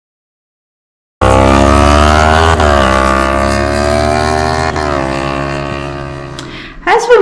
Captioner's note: motorbike engine sound